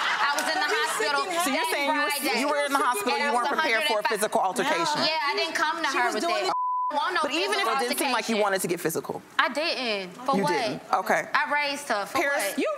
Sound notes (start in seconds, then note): 6.4 beep